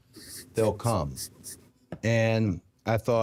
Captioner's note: Jey laughing